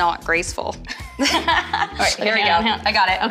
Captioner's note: laughing